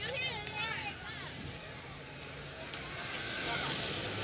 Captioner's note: children talking